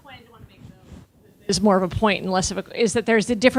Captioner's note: speaking away from microphone